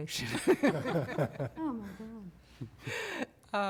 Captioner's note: laughter